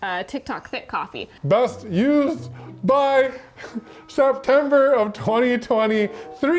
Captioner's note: laughs